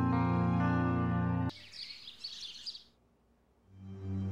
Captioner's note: birds chirping